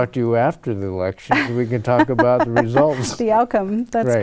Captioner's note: chuckles; laughs